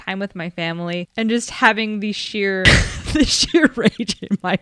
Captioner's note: thinks back to that day and laughs